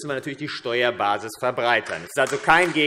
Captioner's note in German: Beifall AfD